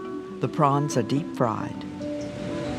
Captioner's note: voiceover